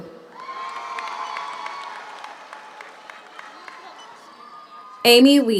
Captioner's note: audience cheers; audience applauds